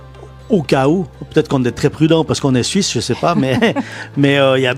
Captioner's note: laughs